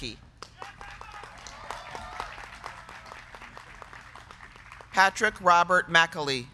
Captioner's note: crowd clapping; crowd cheering